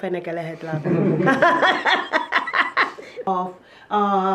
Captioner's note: chuckles